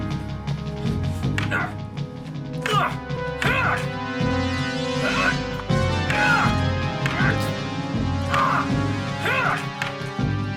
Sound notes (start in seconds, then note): 1.1 eddie grunting and groaning; 1.3 sticks banging together